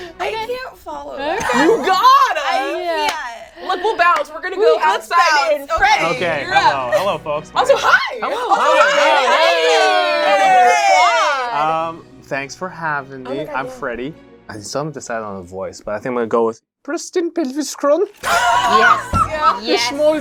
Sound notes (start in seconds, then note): 10.5 all cheer; 18.5 laughs